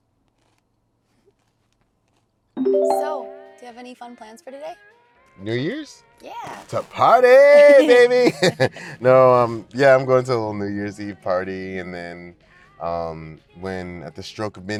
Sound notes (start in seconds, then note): 8.5 laughs